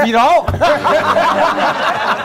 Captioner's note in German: Gelächter; Lachen